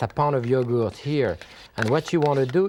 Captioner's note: spoon scraping